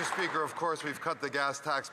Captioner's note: applause